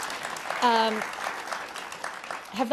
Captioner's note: applause